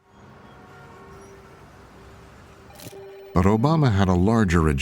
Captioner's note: car horns honking